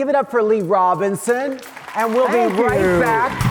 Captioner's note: audience claps